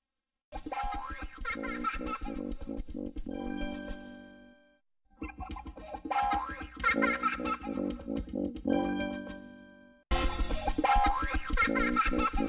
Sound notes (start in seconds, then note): 0.6 kid laughing as music plays; 5.2 laughter and music continuing